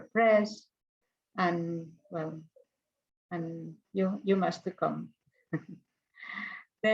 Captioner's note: chuckles